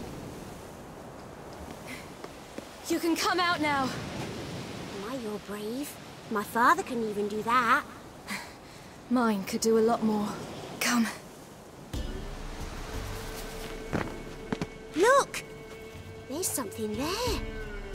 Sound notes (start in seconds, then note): 2.1 out of breath